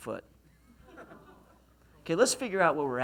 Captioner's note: laughs